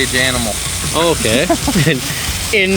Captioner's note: laughing